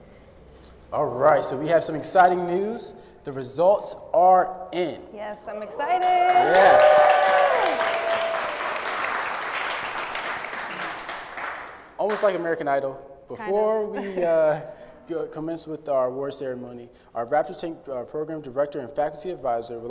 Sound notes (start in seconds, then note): 5.9 applause